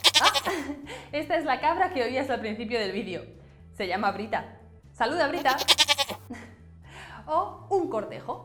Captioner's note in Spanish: Sonido de cabra; Sonido de cabra